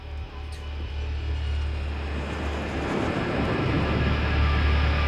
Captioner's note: airplane engine roaring